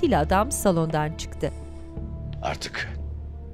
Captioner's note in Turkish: Nefes sesi